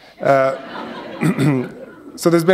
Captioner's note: laughter